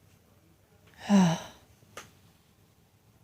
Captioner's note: sigh